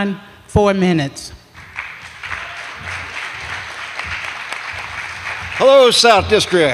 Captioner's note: applause